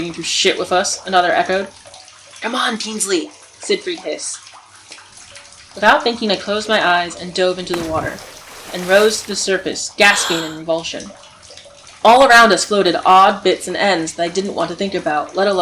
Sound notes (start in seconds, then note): 7.7 diving in water sounds; 12.0 gasping and breaking water